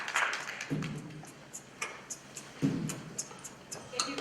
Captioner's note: beatboxing